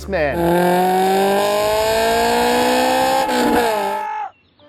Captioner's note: car engine and yelling